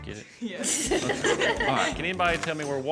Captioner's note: children giggle